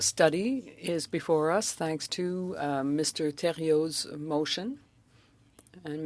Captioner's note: speaking French